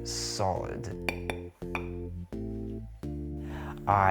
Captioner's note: bread clinks against plate